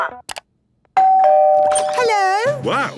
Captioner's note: doorbell ringing